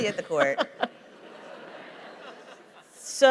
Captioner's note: laughter